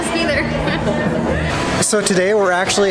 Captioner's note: laughs